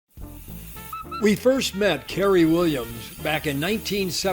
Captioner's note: voiceover